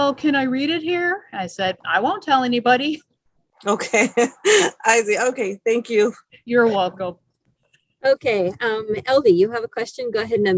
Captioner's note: laughing